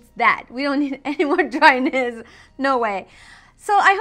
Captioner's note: laughing